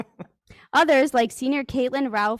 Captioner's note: people laughing